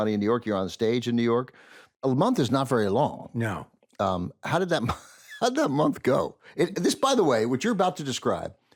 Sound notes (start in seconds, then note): 4.5 laughs